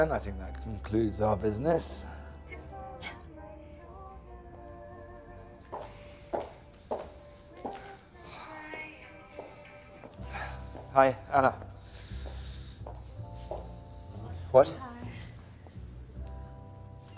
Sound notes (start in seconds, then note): 3.2 musical ring tone